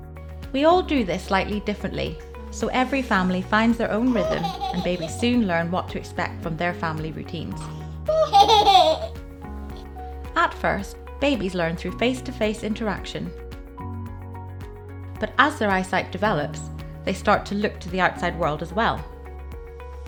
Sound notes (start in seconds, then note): 8.1 giggles